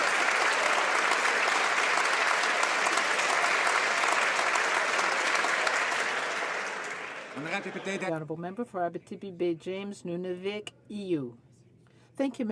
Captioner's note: some Applause